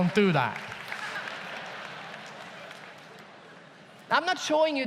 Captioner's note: audience laughs